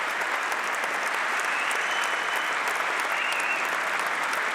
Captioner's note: applause